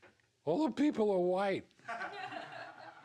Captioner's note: laughs